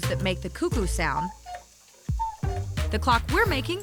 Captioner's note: cuckoo sound